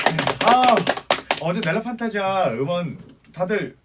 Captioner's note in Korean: 박수